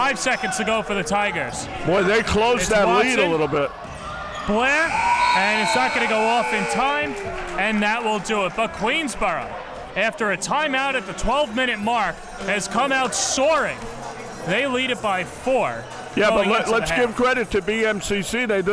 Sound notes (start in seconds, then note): 5.4 buzzer sounds